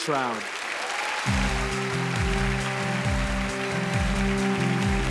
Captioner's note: audience applauds; uplifting music